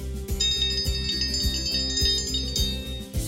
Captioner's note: bell ringing